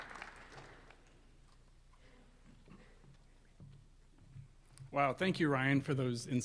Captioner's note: applause